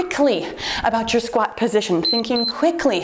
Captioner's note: timer beeps